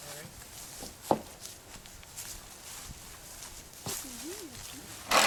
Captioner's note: sound of screw gun